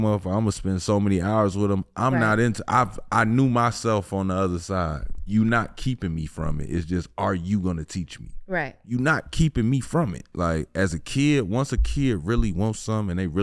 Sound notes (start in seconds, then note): none